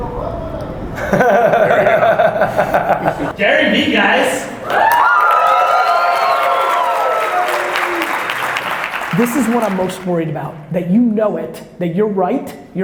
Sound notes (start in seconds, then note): 0.9 laughs; 4.6 audience applauding